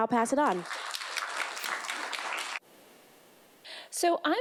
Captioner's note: clapping